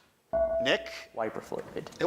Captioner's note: buzzer chimes